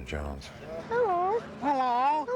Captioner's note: high-pitched voice